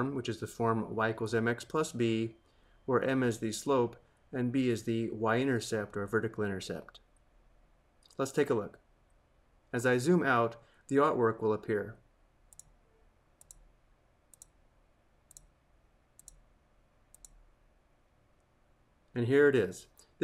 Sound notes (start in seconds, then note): 12.5 mouse clicking